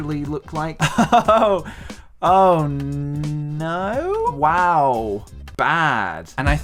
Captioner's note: chuckle